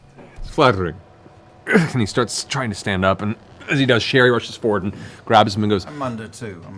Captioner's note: grunts